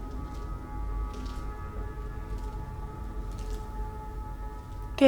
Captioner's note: distant footsteps